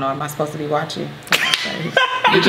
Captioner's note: laughs